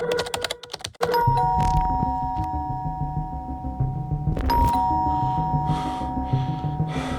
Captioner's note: keyboard clacking; doorbell rings